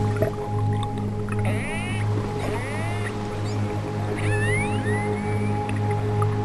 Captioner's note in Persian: صدا های orca